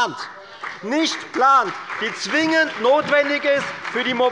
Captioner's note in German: Beifall bei der FDP und der SPD